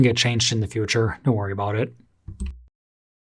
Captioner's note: microphone noise and mouse click, how'd you manage to leave those in?